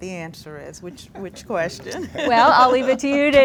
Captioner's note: laughs